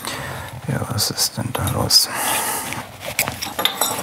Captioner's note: quietly; he sighs